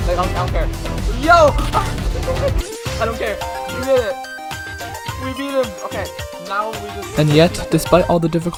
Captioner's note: laughing